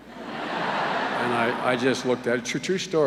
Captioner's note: laughter